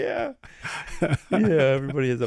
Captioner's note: laughing